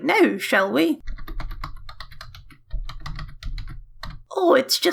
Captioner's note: keyboard noises